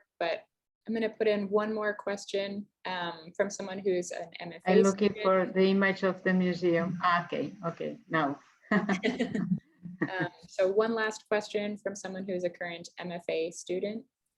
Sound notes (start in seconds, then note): 8.7 both laughing